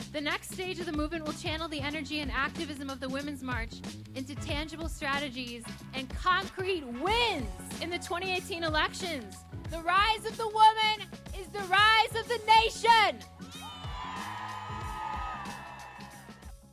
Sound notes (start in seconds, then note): 13.4 cheering